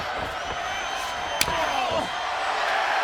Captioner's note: hand slaps; crowd cheering